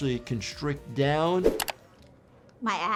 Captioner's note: air whooshing; mouse clicking